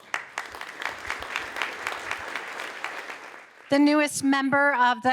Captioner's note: audience applauding